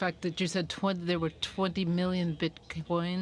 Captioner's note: speaking in french